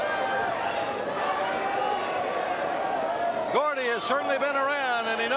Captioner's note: crowd chatter